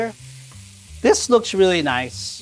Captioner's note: pan sizzling